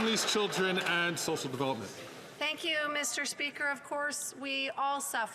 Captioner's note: some Applause